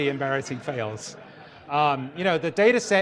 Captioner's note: audience laughter